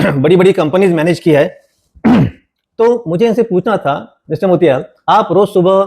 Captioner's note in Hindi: गला साफ़ करने की आवाज़